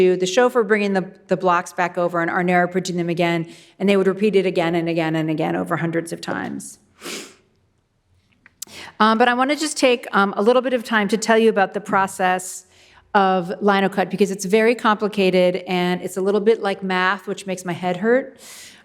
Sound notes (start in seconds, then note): none